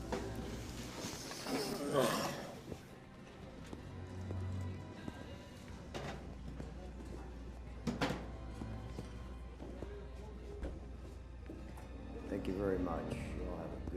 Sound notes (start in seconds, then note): 1.4 Jason groaning; 4.9 soft dramatic music